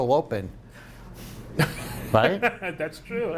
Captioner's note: laughing